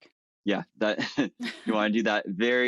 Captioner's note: chuckles